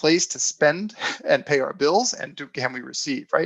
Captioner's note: chuckles